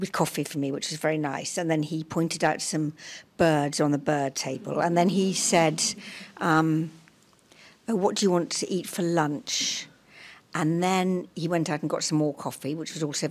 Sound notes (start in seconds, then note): 4.5 laughter